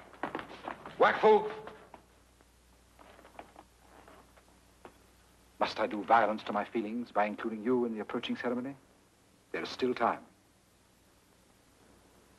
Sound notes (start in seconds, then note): 1.7 speaks foreign language